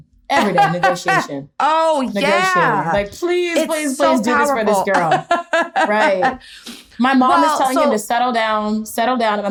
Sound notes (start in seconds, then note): 0.4 laughing; 4.9 laughter